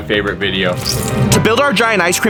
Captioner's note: cone crunching